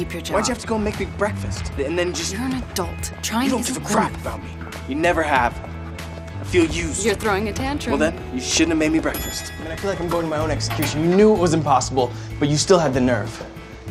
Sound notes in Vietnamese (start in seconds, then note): none